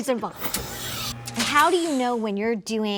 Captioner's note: electronic buzzing